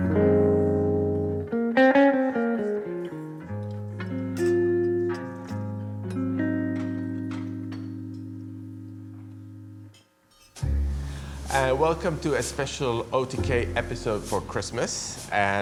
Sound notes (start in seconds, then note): 0.2 smooth jazz guitar music; 4.3 utensils clattering